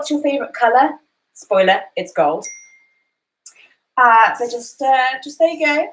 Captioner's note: cellphone chimes